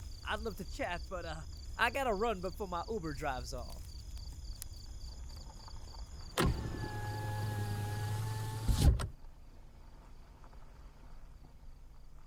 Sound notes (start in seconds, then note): 4.2 car window rolls up